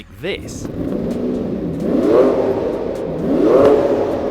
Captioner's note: engine revs